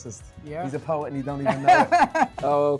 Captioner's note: laughing